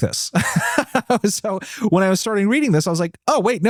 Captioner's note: laughs